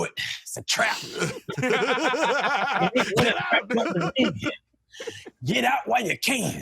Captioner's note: laughter